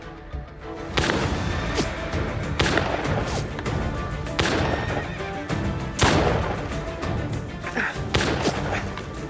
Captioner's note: gunfire